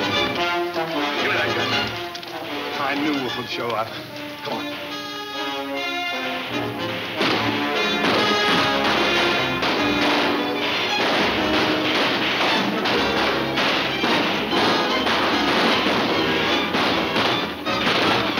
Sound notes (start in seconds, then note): 0.0 dramatic music; 4.6 dramatic music; 4.6 guns banging